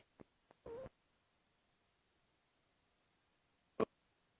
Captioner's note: audio distorting